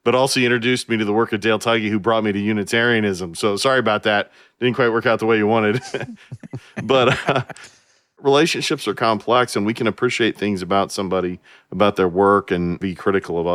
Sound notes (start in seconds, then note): 5.7 laughs